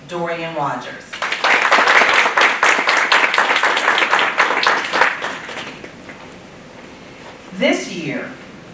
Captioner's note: applause